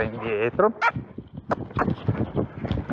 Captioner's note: cluck